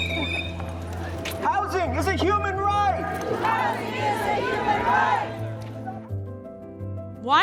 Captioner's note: chanting